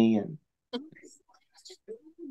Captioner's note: laughs